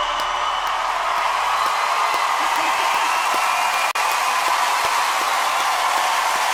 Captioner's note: audience cheers; claps